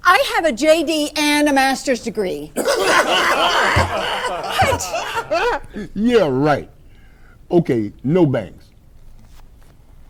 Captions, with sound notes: I have a JD and a master's Degree. (men laugh) - Yeah, right. Okay, no banks.